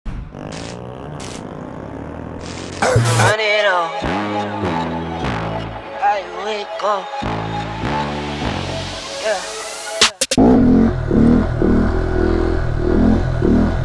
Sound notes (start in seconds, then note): 2.8 heavy music; 10.3 bike revving